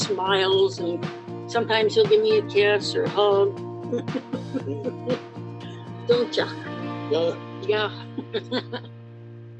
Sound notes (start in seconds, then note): 3.9 chuckles; 7.9 laughs